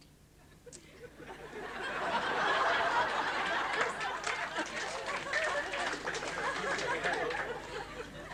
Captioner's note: laughter